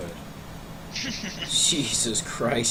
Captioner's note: chuckling